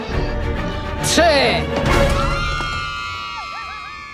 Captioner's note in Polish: krzyki